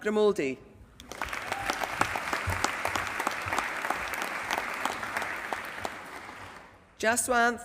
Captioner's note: applause